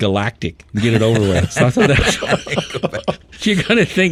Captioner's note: group laughing